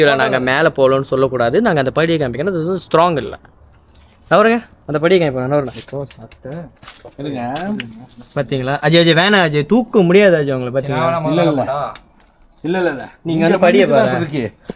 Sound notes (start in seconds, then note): none